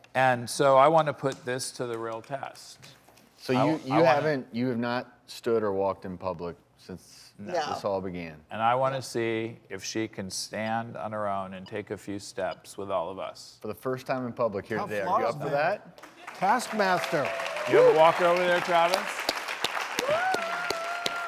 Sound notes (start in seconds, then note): 16.0 applause